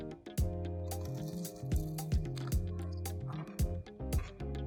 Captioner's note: crunching